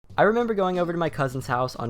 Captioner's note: voiceover